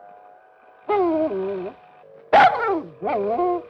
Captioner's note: dog whining, barking